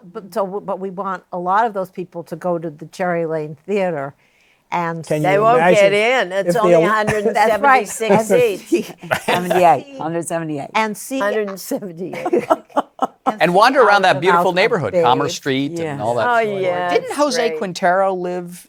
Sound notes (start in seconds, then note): 8.7 laughter